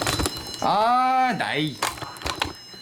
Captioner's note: whining